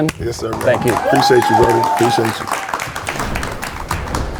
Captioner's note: audience applauding